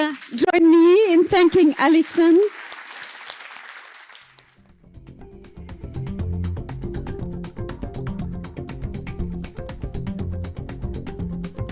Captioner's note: applause